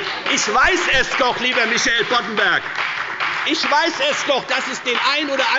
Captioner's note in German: Beifall bei der FDP und bei Abgeordneten der SPD